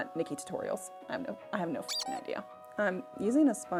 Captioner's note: rubber chicken squeaking